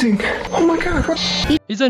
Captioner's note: signal interruption